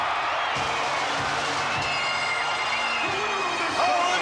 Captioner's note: audience cheering and applauding